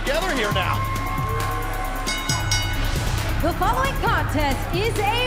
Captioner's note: bell ringing